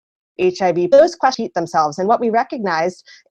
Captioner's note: audio fast forwards